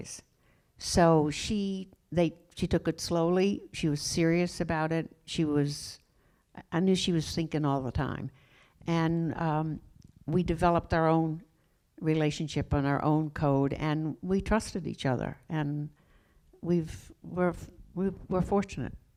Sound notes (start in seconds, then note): none